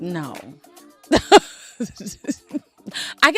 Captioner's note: laughing